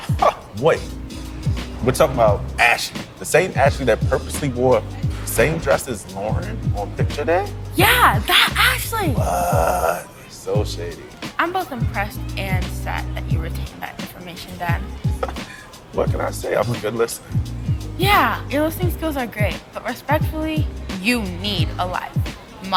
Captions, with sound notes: - (laughing) Wait, we're talking about Ashley? The same Ashley that purposely wore the same dress as Lauren on picture day? - Yeah, that Ashley. - What? So shady. - I'm both impressed and sad that you retain that information, Dad. - (laughing) What can I say? I'm a good listener. - Yeah, your listening skills are great, but respectfully, you need a life.